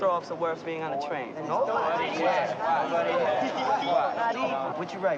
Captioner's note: men chattering